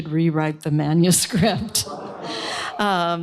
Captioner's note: laughter